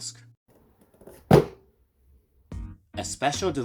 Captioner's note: thud